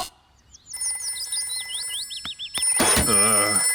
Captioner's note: phone rings